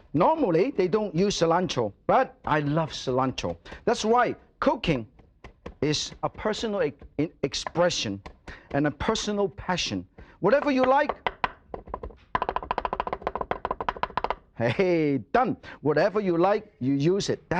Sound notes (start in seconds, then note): 11.6 knife chopping